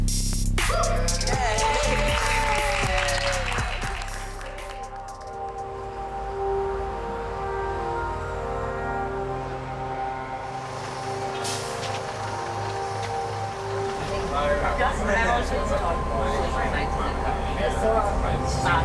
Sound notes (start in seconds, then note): 1.5 audience cheers and applauds; 5.3 gentle music; 12.5 bus engine chugs; 15.0 passengers murmur